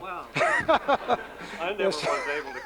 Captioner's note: laughter